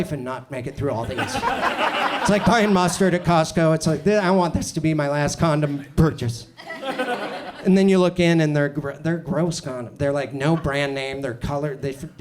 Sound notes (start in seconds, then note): 1.0 audience laughs